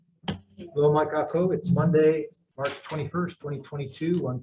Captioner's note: foreign language